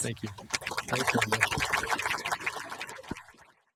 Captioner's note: applause